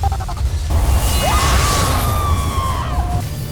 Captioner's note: growls, then groans; powerful whoosh-crackle; wind flare whoosh; screams